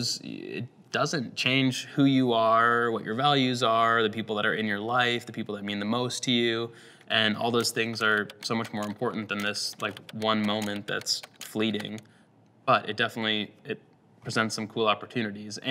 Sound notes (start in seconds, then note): 7.3 keyboard taps